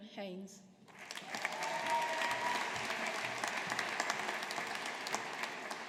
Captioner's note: audience applauding